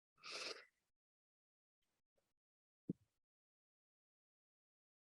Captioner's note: breathes deeply